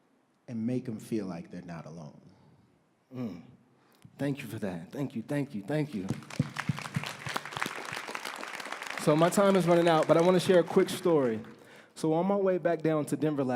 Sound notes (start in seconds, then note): 8.5 applause